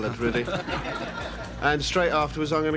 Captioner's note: audience laughs